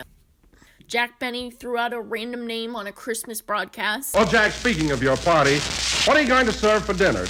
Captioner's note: radio